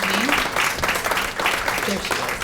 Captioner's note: applause